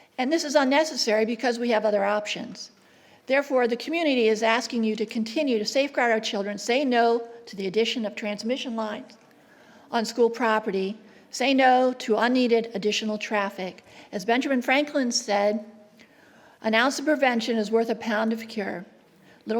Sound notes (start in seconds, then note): none